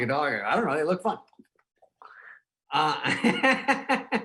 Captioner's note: teeth clacking; laughing